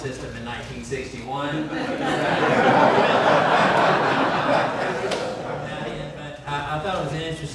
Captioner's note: audience laughs